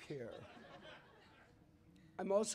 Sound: laughter

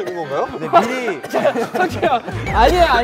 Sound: coughing; coughing at the shocking news

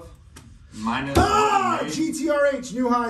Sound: groaning

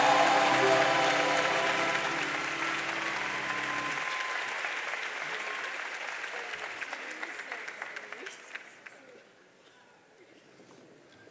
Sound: applause

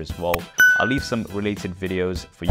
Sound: bell dings

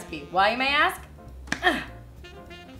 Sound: grunts

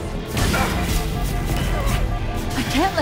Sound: HUD alarm beeps

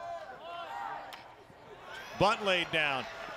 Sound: crack

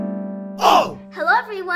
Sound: scream

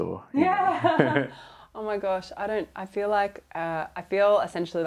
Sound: laughs

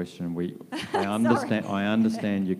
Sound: laughs

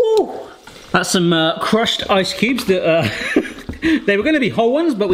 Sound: laughs

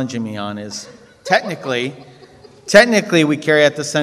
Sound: woman laughs

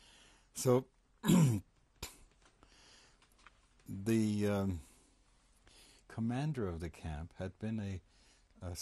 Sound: pauses for 3 seconds

